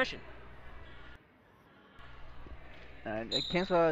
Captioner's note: crowd talking